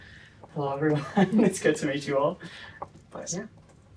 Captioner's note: laughter